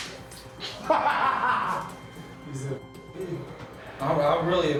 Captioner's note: laughing